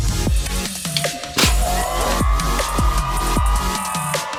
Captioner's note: cheering